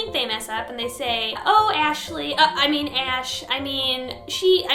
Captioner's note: choke